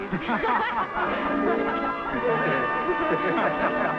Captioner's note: all laughing